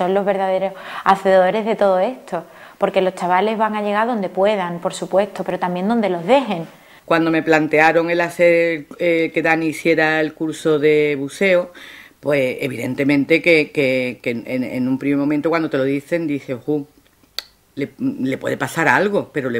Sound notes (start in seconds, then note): 7.6 mother speaking